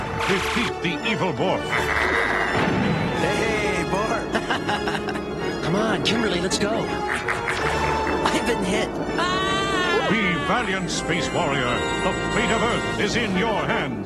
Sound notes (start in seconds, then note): 5.0 laughs; 6.8 maniacal laugh